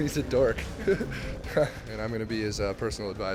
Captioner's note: laughter